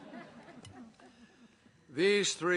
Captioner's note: laughter